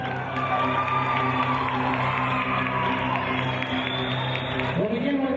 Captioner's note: cheers and applause